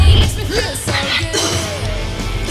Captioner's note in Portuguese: tosse